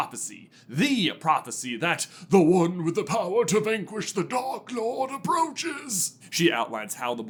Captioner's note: accented